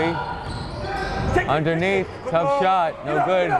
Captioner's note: yelling